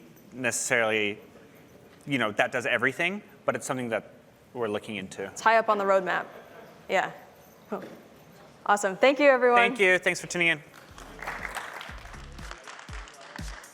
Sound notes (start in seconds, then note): 10.6 applause